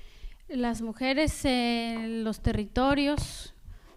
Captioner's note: speaking spanish